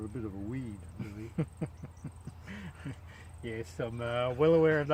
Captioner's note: laughing